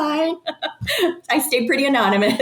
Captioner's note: person laughing